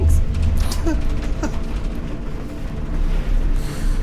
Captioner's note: Ra laughs